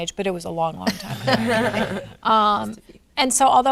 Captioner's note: laughing